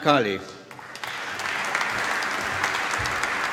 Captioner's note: applause